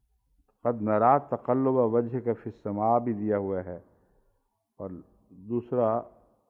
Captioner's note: Arabic